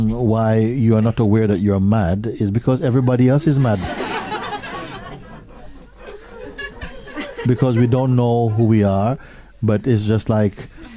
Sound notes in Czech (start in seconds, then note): 3.6 smích